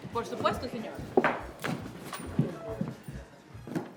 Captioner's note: bartender speaking in Spanish; chains rattling